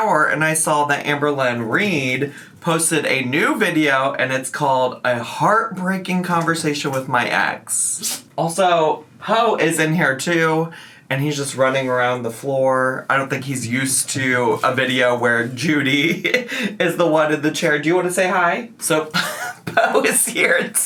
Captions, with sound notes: and I saw that Amberlynn Reid posted a new video and it's called "A Heartbreaking Conversation with My Ex." Also, Po is in here too, and he's just running around the floor. I don't think he's used to a video where Judy (laughs) is the one in the chair. Do you wanna say hi? So Po is here too.